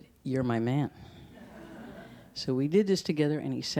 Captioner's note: audience laughs